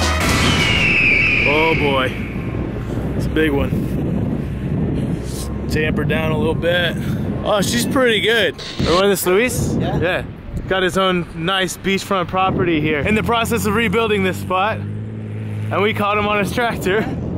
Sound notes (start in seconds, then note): 8.6 static sound